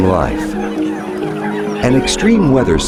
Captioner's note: bird chirping